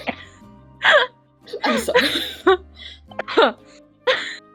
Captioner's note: laughing